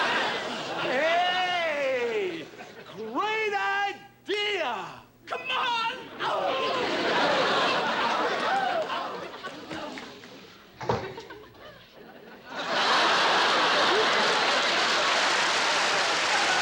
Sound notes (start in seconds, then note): 6.5 laughter; 11.0 laughter and applause